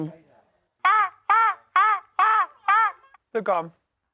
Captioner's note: ca-caw